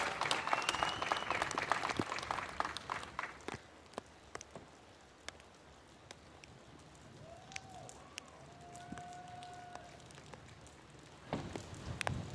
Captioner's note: applause